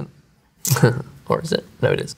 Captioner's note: chuckles